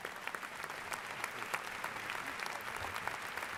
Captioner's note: applause